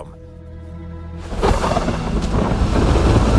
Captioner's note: thunder rumbles